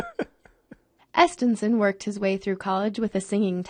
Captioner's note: laughs; voiceover